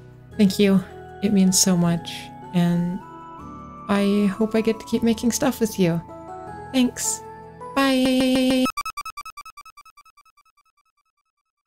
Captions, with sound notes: Thank you! Thank you! It means so much. It means so much. And, And, I hope I get to keep making stuff with you! I hope I get to keep making stuff with you! Thanks! Thanks! Bye-e-e-e-e (glitching sounds) Bye-e-e-e-e (glitching sounds) (chiptune fading out sounds) (chiptune fading out sounds)